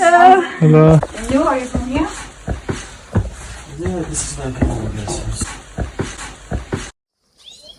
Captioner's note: chatter in the background